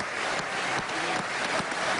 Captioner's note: applause